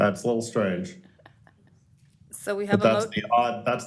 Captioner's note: laughter